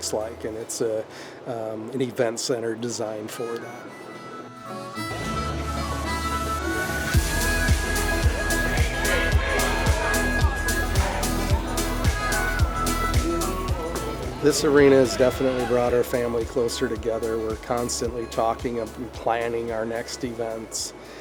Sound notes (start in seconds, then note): 3.7 energetic music; 3.7 people shouting